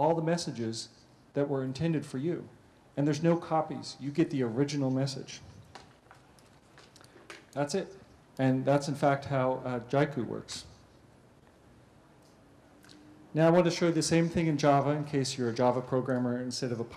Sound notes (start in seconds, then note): 5.2 pause; 10.5 pause